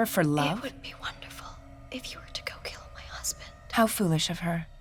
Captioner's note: whispering